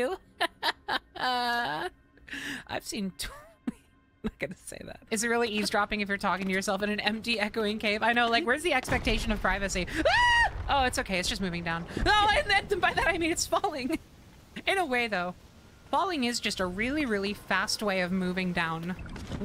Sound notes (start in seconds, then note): 0.1 laughter; 3.2 peters out giggling